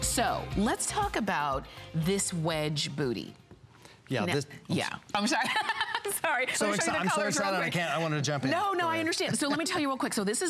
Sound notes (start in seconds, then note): 9.1 laughter